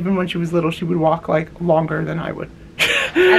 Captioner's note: lols